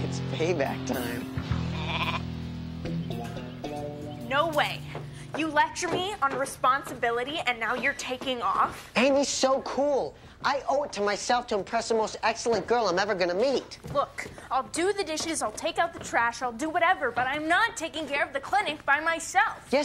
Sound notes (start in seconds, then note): 1.5 goat bleating